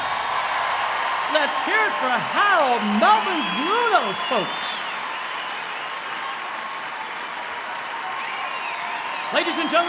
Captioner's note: cheering and applause